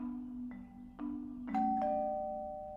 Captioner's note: doorbell Rings